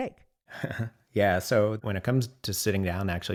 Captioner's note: laughs